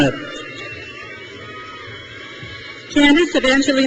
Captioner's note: crowd cheers